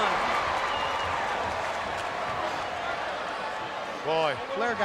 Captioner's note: crowd cheering